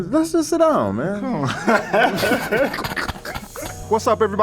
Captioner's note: both laughing